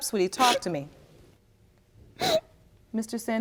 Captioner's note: sobbing